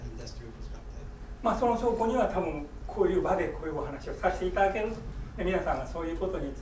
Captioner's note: speaking in foreign language